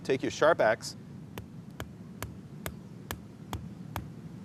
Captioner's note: pounding